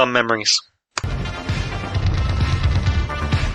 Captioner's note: click